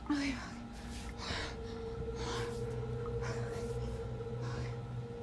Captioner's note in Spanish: Respirando pesadamente